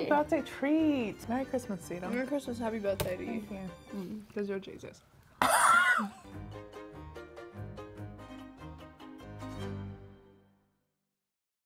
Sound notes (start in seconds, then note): 5.5 laughs; 6.1 upbeat music continues